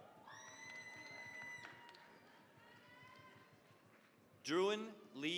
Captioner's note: cheering, applause